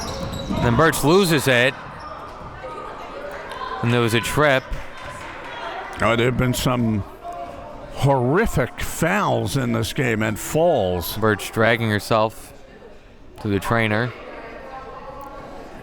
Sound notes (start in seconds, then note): 2.5 whistle blows